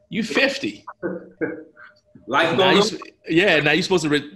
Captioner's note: laughs